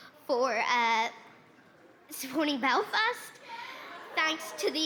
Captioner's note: laughter